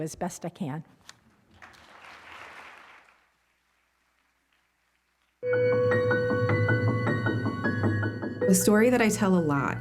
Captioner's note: applause